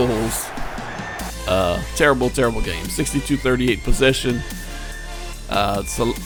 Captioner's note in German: Beifall